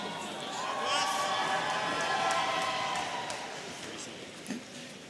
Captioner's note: audience cheering